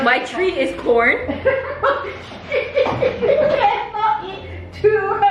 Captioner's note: laughing